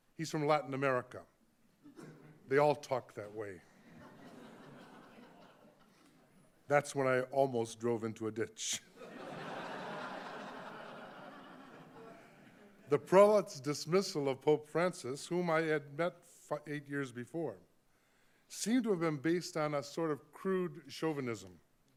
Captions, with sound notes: he's from Latin America, they all talk that way. (audience laughing) That's when I almost drove into a ditch. (audience laughing) The prelate's dismissal of Pope Francis, whom I had met eight years before, seemed to have been based on a crude chauvinism.